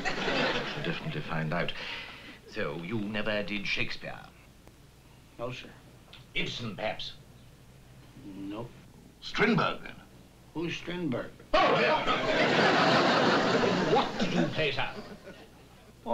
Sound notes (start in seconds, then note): 11.5 exclaiming